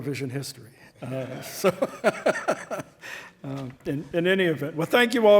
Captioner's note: all laughing